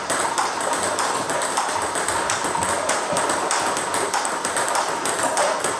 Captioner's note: ball ping pong hitting continues